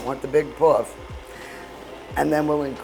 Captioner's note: stand mixer whirring